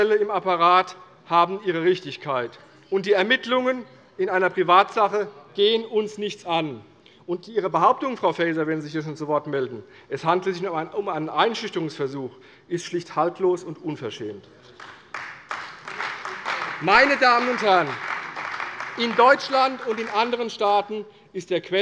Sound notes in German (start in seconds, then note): 14.7 Beifall bei der CDU und dem BÜNDNIS 90/DIE GRÜNEN